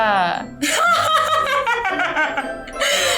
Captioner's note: laughter